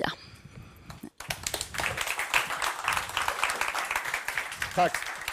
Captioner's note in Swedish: Applåder